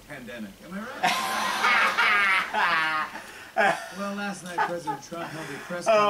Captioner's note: uncontrollable Laughter